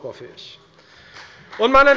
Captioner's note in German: Beifall bei der FDP